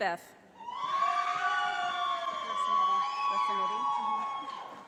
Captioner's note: audience applauding